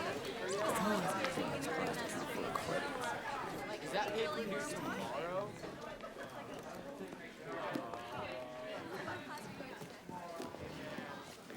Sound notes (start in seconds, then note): 6.0 students chattering